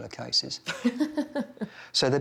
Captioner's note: laughs